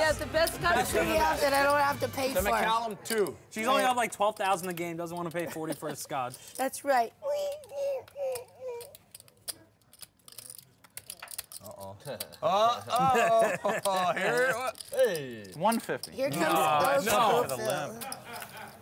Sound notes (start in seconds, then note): 11.9 laugh